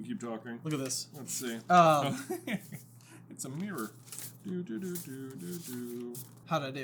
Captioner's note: chuckles